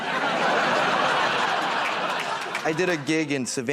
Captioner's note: laughter